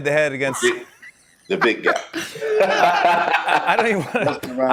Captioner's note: laughter